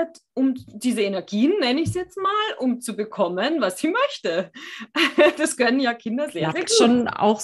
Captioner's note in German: lachen